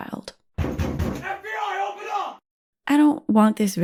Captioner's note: door knock